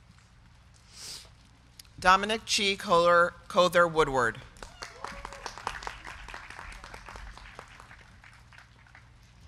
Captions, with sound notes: Dominic Chi Cother Woodward. (crowd clapping)